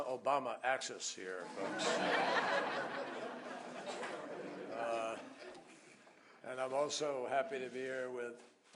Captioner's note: laughter